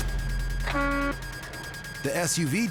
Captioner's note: horn honking